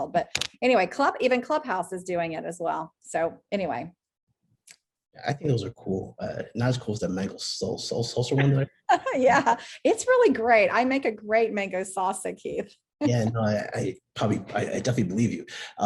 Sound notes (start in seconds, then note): 8.3 laughs; 13.0 laughs